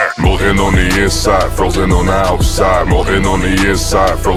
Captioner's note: none